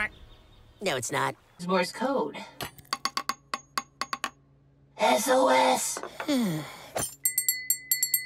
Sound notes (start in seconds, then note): 4.7 whispering; 6.1 sighs